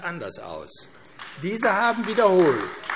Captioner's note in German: Beifall AfD